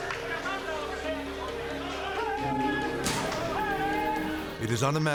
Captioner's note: people shouting in foreign language